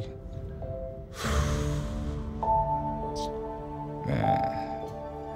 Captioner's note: exhales